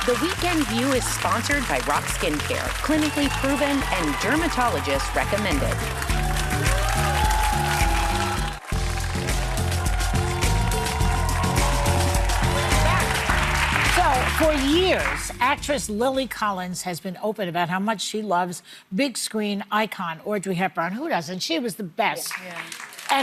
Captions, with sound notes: The weekend view is sponsored by Roc Skincare, clinically proven and dermatologist recommended. (audience applauding) (upbeat music) So for years, actress Lily Collins has been open about how much she loves big screen icon, audrey hepburn who doesn't? She was the best.